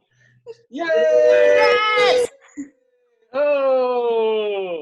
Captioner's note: all cheering